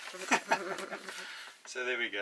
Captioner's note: both laughing